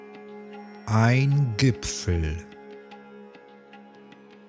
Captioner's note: german